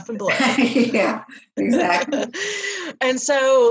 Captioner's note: laughs